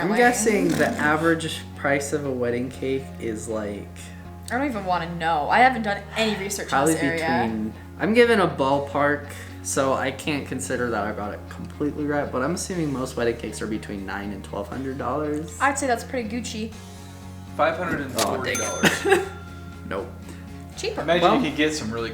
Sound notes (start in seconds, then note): 17.7 male Voice; 18.8 laughs; 21.2 male Voice